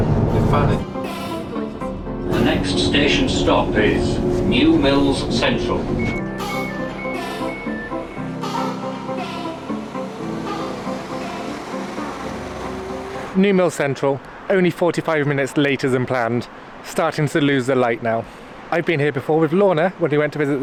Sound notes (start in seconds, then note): 6.6 doors beeping; 8.8 train engine